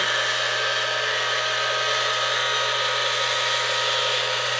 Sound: mixer whirring

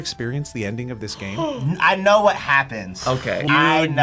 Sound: gasps

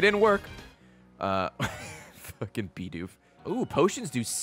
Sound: laughs

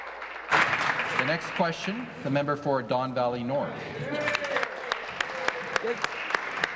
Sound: applause

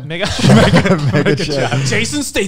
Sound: group laughs

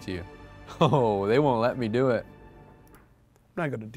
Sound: chuckles

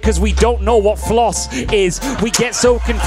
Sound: crowd laughing

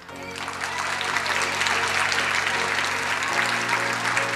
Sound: crowd applauding

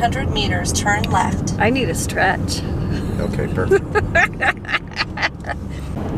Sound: laughter

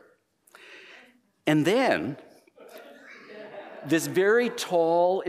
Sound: laughter

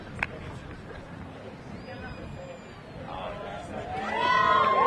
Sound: audience chattering indistinctly; audience cheering

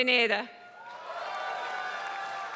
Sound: applause

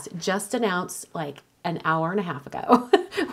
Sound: laughs

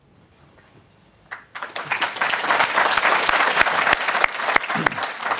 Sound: audience applauding

